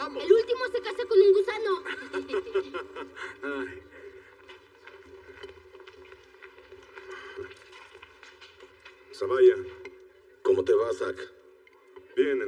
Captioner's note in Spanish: Ríe